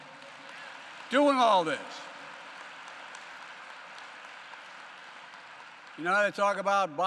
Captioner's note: applause